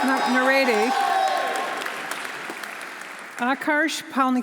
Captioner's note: audience cheering; audience applauding